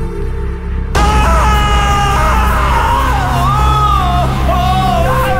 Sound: screaming

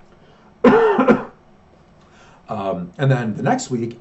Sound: coughs

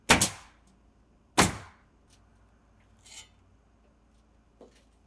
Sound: nail gun bangs

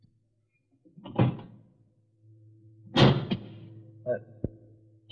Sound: car door opens and closes

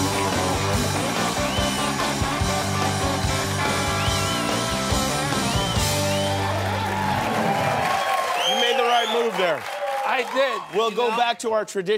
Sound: cheers and applause

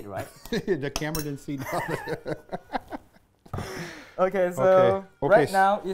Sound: laughing

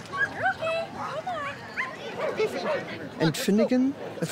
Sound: dogs barking

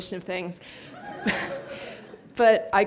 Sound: audience laughs

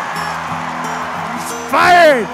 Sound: crowd cheers

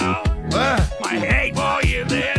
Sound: confused drunk sound

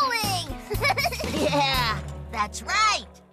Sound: laughs

